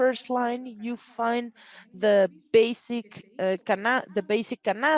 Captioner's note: speaks Spanish